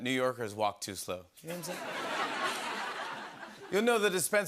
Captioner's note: laughter